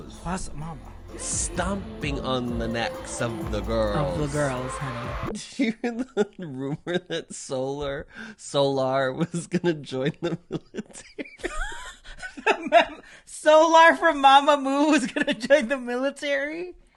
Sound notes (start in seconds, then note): 8.4 laughing